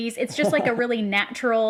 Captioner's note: laughs